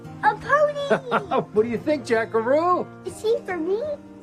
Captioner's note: laughs